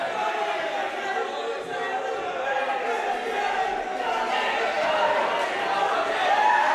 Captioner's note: yelling and cheering